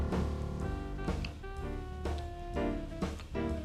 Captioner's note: kissing; jazz music